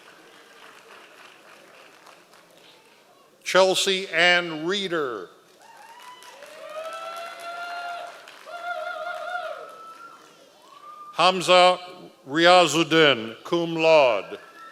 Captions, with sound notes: Chelsea Anne Ritter. (members of the audience cheering) Hamza Riaz Odin, cum laude.